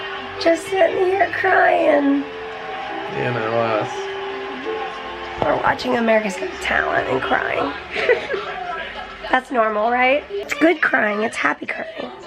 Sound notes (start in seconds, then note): 7.9 chuckles